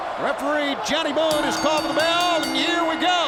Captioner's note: bell rings